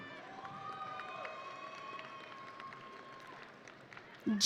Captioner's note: audience cheering